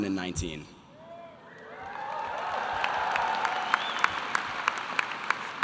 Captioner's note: audience applause